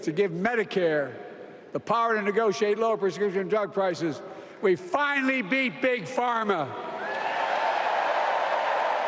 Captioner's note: applause